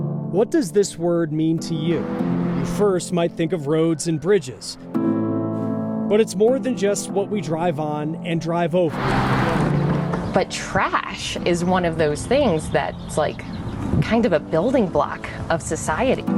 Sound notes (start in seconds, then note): 8.8 car whooshing; 8.9 wheels clattering